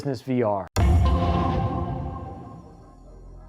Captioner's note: chimes